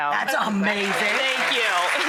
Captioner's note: audience applauding